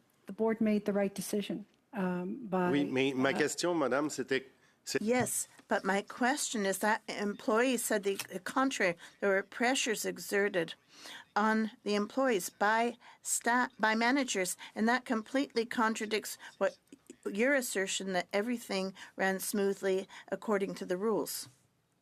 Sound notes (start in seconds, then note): 7.4 speaking French